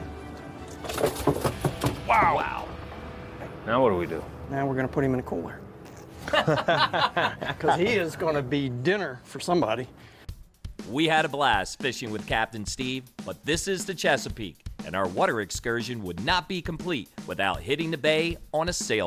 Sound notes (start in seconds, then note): 0.8 fish thumping; 6.1 laughing